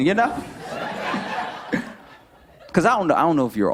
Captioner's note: light laughter